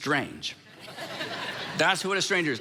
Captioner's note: congregation laughing